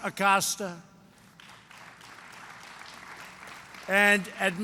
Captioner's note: applause